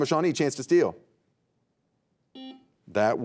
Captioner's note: buzzer beeping